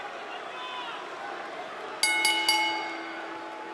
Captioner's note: crowd chatter; bell ringing